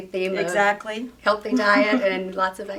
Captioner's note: laughs